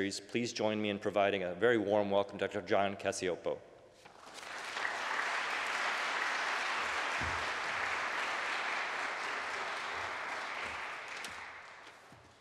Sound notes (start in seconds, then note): 4.1 applause